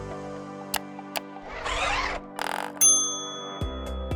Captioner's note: popping sound; clicking sound; bell ringing